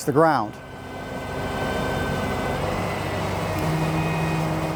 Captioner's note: machinery whirring